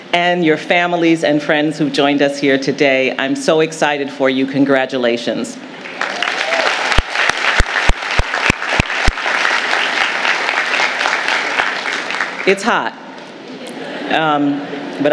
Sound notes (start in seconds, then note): 5.8 audience applauding; 13.5 audience laughing